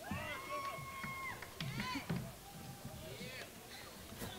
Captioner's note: crowd cheers